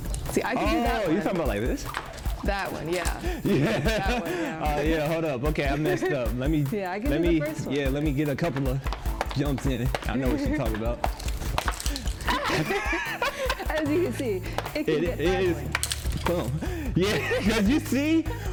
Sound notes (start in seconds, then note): 3.3 laughs; 12.0 both laugh